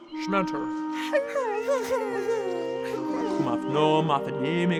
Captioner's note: both crying